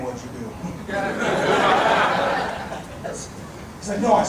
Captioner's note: audience laughing